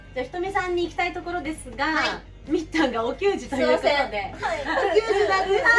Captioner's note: laughs